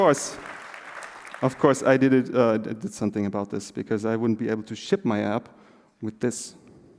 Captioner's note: applause